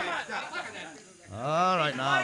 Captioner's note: chatter